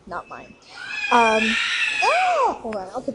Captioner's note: baby screams